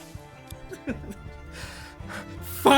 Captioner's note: chicken induced giggling